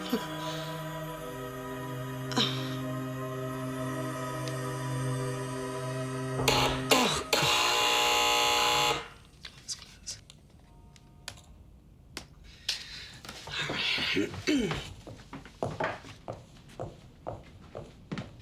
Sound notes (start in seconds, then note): 0.2 Nora chuckles; 5.6 doorbell buzzes; 13.9 clears throat